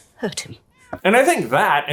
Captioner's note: meow